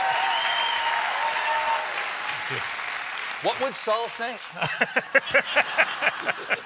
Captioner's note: cheers and applause; laughter